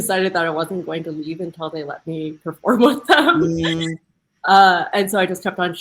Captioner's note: laughing